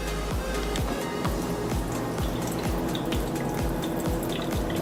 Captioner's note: coffee dripping